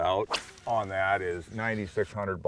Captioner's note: rod whipping; reel spinning